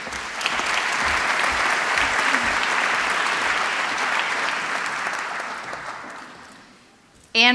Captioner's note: applause